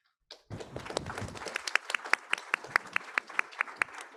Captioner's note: audience applauds